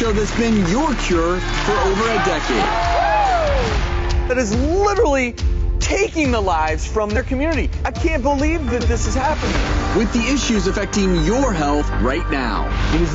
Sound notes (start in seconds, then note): 2.5 applause